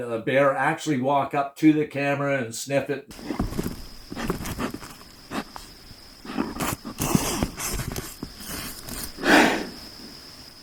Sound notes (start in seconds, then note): 3.7 bear sounds